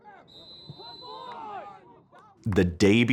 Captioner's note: whistle blows